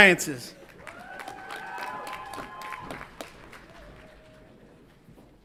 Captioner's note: audience applauds and cheers